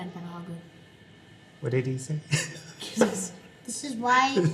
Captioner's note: laughs